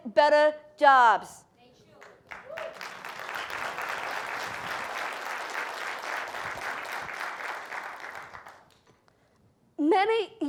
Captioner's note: applause